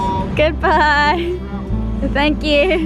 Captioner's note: laughs